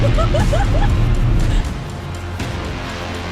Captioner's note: laughing